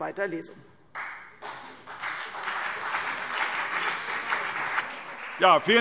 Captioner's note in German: Beifall CDU und BÜNDNIS 90/DIE GRÜNEN